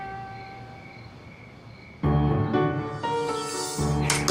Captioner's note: crickets chirping